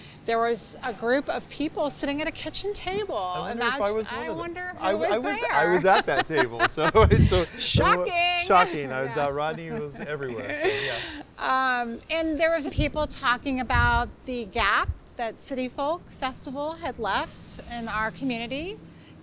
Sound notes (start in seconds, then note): 6.6 laughs